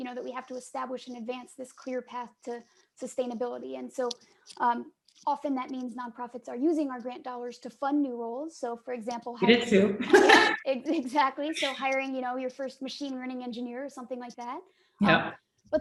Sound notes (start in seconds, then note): 9.4 laughs